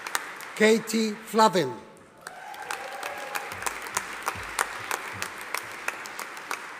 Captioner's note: audience applauding